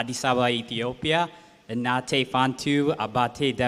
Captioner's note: non-english speech